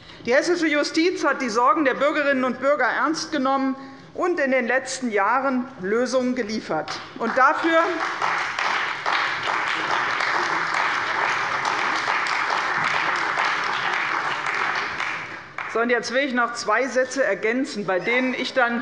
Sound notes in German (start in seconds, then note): 7.0 Beifall bei der CDU und dem BÜNDNIS 90/DIE GRÜNEN